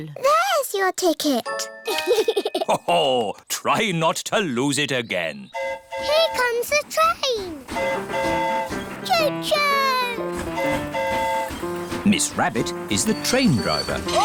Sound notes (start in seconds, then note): 1.9 giggles; 5.5 train horn hooting; 10.3 train horn hooting